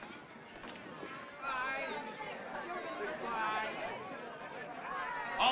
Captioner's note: shouts Of"Good-bye"